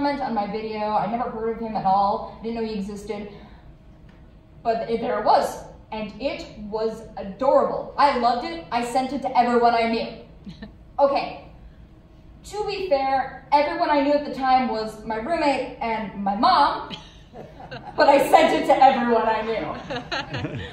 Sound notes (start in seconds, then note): 16.9 laughter; 19.7 more laughter